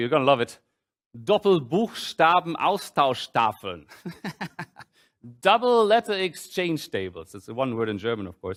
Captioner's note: german; laughs